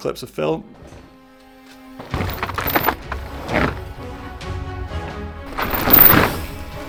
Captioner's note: tires making unusual sounds in turns